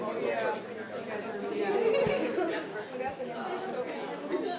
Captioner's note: speaks faintly